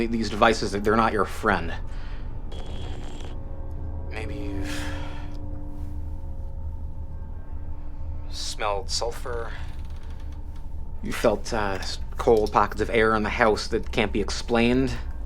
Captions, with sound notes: These devices, they’re not your friend. Maybe you’ve smelled sulfur. (creaking) You’ve felt, uh, cold pockets of air in the house that can’t be explained.